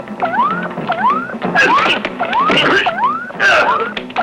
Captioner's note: whacking; crying out; dramatic music; electronic beeping